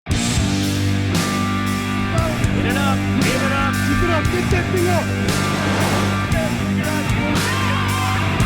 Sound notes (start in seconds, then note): 0.1 hard rock music; 1.9 instructors yelling; 5.2 heavy surf; 6.7 instructor yelling